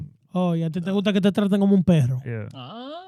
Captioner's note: speaking In Foreign Language